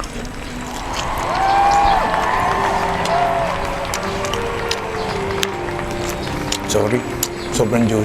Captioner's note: applause